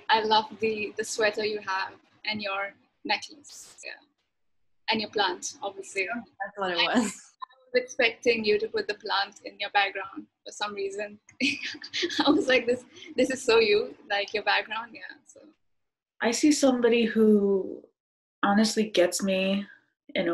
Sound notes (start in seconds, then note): 11.5 laughs